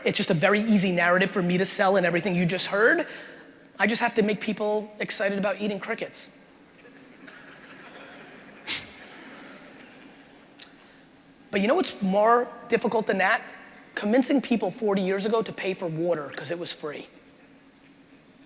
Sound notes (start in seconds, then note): 6.8 crowd laughing